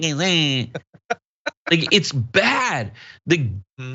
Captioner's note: laugh